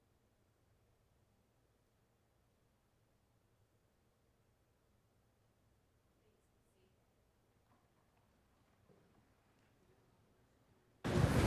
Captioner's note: moment of Silence